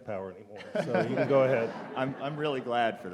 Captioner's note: audience laughing